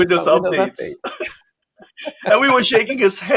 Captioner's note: both laughs